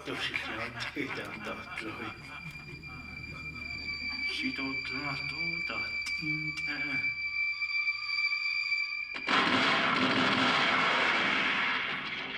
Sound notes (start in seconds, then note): 4.3 speaking Navajo; 9.2 firing